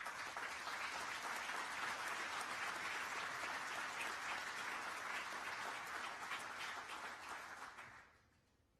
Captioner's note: applause